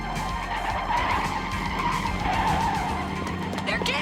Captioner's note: tires squealing